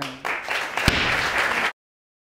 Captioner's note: audience applauding